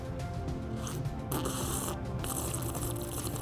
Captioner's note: slurping